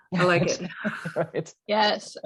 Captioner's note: chuckle